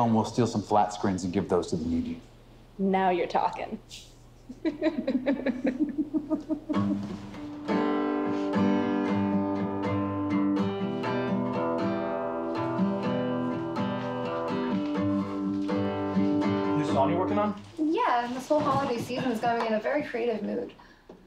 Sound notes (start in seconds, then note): 4.4 both laughing